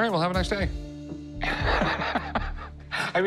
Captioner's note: chuckles